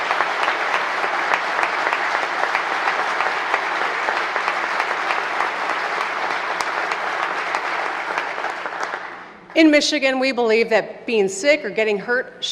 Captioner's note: applause